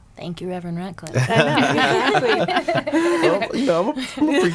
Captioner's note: laughing